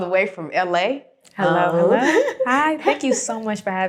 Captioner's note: greeting in unison